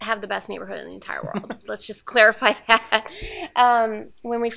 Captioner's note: laugh